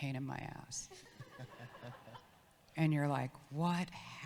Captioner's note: audience laughs